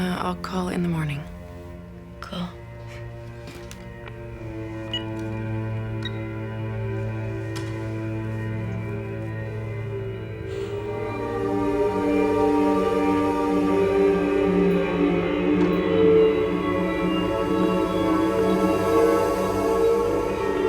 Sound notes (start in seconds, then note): 4.9 phone beeps; 11.2 ominous music